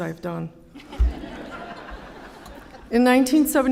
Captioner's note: laughter